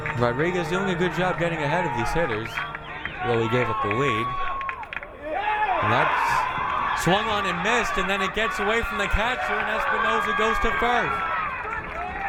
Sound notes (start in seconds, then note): 5.6 crowd cheering; 12.0 crowd cheering